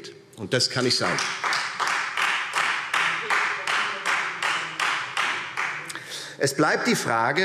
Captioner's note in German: Beifall Freie Demokraten